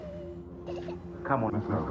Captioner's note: child crying